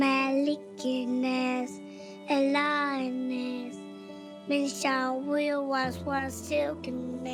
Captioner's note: speaking in Arabic